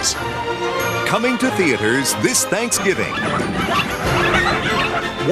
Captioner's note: puppies Barking